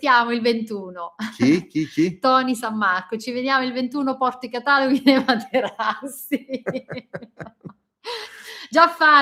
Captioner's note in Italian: risate